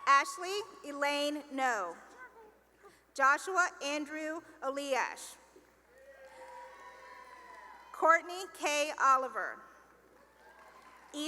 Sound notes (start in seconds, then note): 5.9 cheering and applause; 9.4 cheering and applause